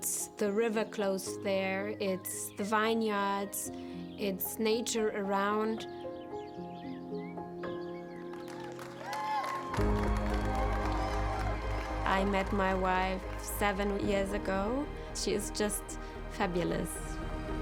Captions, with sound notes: It's the river close to there, it's the vineyards, it's nature around. (birds chirping) (applause, cheering) I met my wife seven years ago. She is just fabulous.